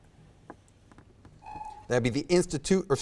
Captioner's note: timer buzzes